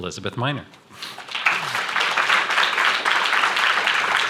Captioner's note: applause